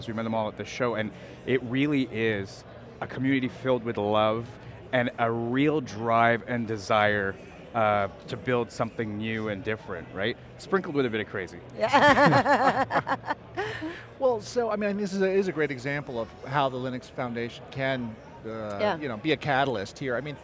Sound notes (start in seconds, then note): 11.8 laughing loudly